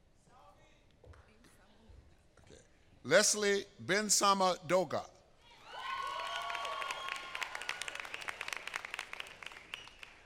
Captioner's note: applause